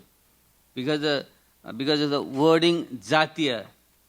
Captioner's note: speaking in foreign language